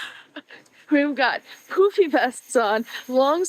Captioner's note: laughs